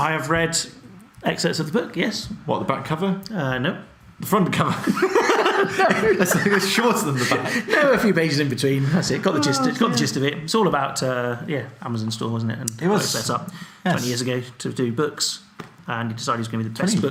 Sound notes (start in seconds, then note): 4.8 both laugh; 9.1 laughing